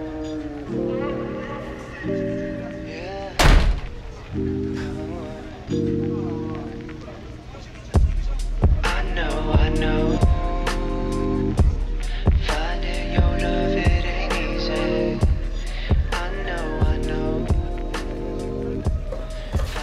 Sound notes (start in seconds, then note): 3.3 door slams